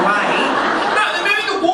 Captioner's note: audience laughing